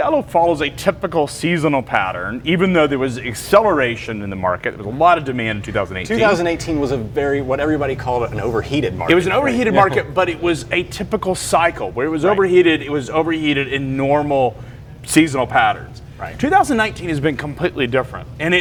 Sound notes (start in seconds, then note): 8.2 laughs